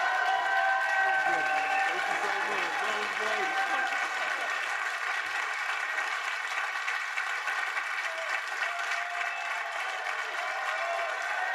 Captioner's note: applause